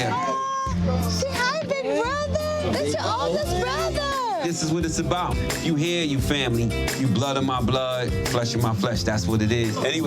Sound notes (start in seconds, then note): none